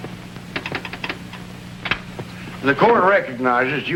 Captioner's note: telegraph ticking